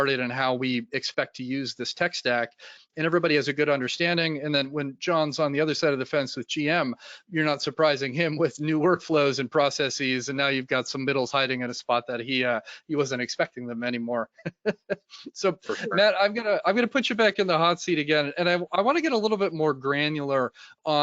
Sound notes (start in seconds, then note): 14.2 laughs